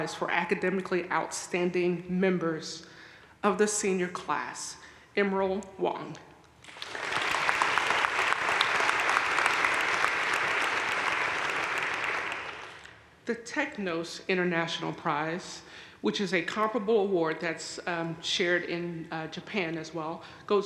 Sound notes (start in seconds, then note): 6.6 audience cheering and applauding